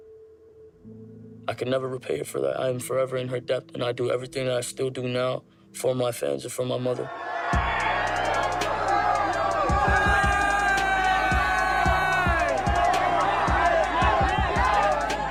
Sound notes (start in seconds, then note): 7.1 fans cheering; 10.0 shouting